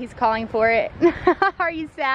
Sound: laughing

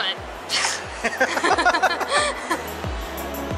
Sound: laughing

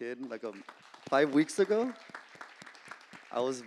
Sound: applause

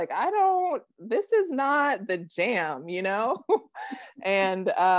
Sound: chuckling

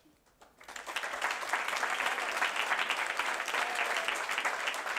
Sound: audience applauding

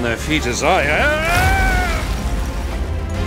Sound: jack yells

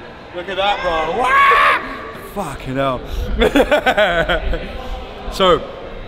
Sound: laughing

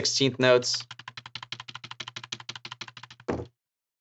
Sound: keyboard typing

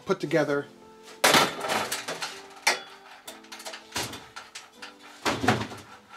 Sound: bar hits light fixture

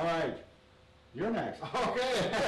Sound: men laughing

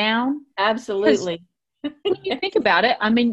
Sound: giggles

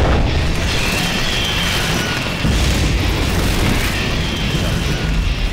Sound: Demo bat screeches

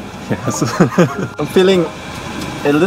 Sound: laughing

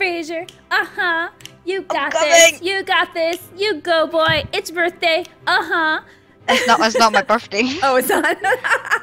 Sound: haha

